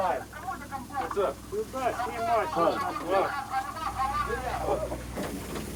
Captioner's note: over radio